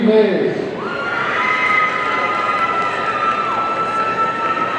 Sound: audience cheering

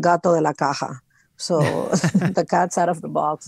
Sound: hosts laugh

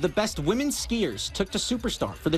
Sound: nats horn

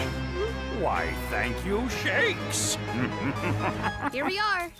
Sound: laughing

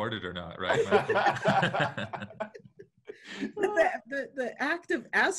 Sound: laughing

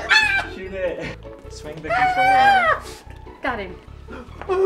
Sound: laughing; screaming drowns out speaker

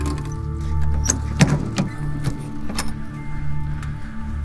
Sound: latch thumps; tense music

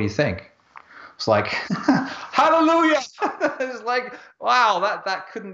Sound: laughs

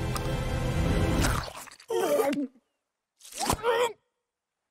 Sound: gagging

